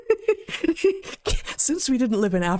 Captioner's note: laughing